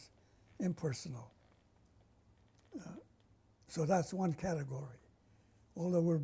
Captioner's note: pauses for 3 seconds